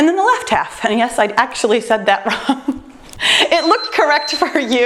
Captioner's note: laughs; timer beeps